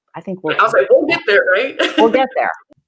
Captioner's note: laughs